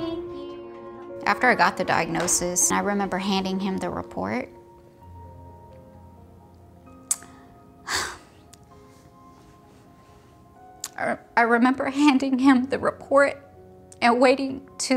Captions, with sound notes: Thank you. After I got the diagnosis, I remember handing him the report. (sighing) I remember handing him the report and waiting